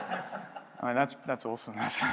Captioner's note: laughing